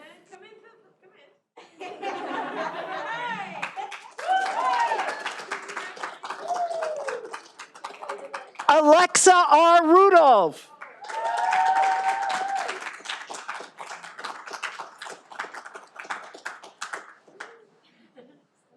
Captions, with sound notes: That's all right. Alexa R. Rudolph. (all applauding)